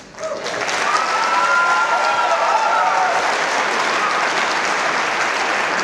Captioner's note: audience applause and cheers